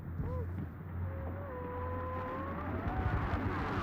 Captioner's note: distorted yelling